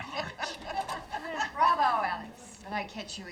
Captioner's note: people laughing